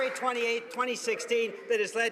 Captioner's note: some Applause